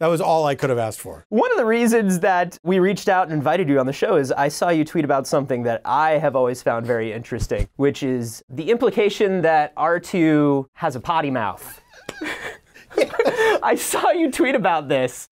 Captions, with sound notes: That was all I could have asked for. One of the reasons we reached out and invited you on the show was that I saw you tweet about something that I have always found interesting. Which is the implication that Artoo has a potty mouth. [Laughing] Yes. I saw you tweet about this.